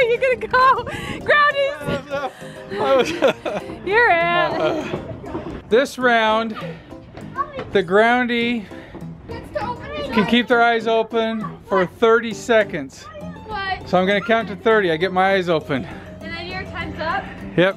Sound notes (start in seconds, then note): 3.7 laughing